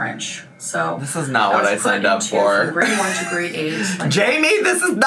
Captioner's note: chuckles